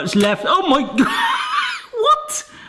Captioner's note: laughs